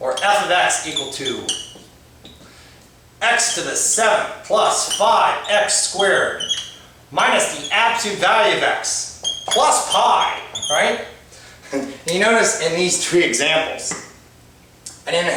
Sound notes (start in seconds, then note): 11.6 laughs